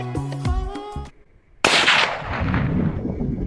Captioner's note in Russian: выстрел